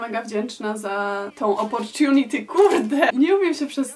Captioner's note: switches to English; back to Polish